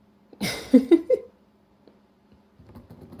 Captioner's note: laughs